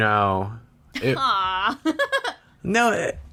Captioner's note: laughs